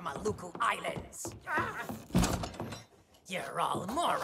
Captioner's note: door slams